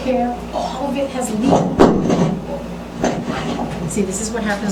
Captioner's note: microphone drops